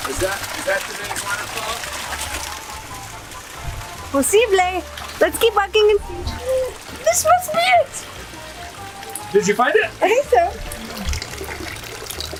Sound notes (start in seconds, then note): 4.4 speaks foreign language